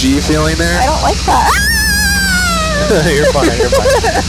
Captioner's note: screams; laughs